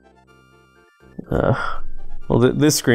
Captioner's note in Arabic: تئن